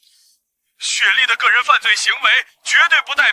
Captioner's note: excited and incoherent